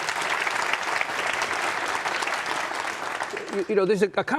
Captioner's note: audience clapping